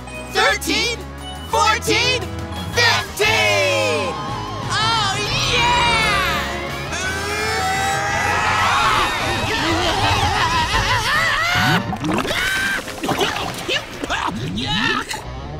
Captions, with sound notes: thirteen, fourteen, fifteen! Oh, yeah! [screaming] [screaming] [coughing] Yuck!